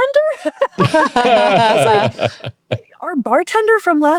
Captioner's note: all laughing